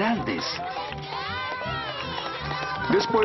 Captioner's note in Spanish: niños celebrando